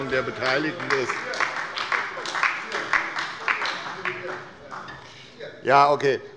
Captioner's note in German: Beifall bei Abgeordneten der SPD und der LINKEN